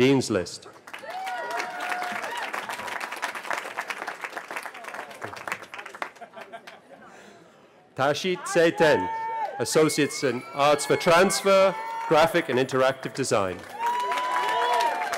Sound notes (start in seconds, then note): 2.7 cheering; 15.0 cheering